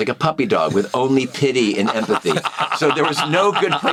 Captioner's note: all laugh